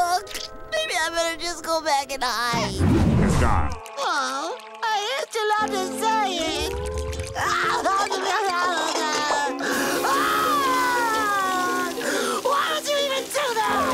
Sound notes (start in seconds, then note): 7.3 crying